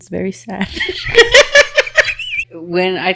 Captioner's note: laughing